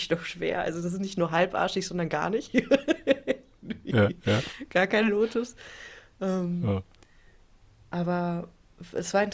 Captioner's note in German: gelächter